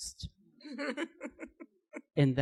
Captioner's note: laughs